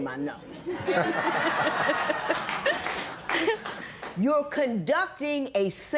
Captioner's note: laughter